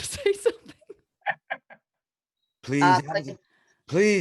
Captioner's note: chuckles